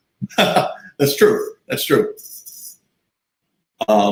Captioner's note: chuckles